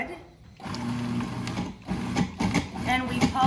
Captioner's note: food processor whirring